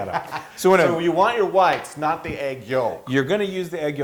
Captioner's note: laugh